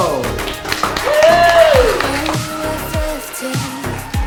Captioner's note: cheering